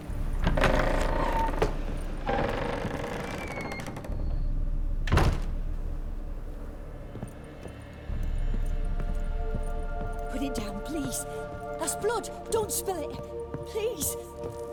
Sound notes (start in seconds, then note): 0.2 door creaks open and closed